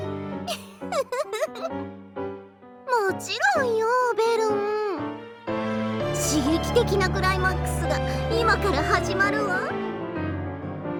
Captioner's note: giggle, giggle, giggle